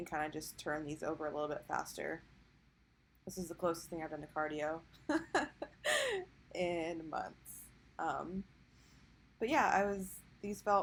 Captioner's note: lols